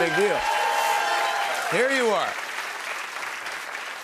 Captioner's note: applause